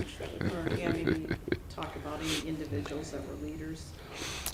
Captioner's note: laughter